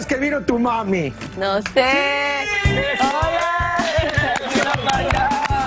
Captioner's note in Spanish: risas